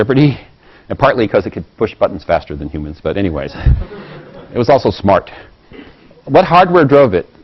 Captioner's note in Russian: Смеется